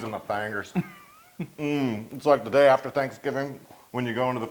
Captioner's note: laugh